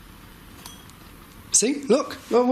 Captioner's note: clinking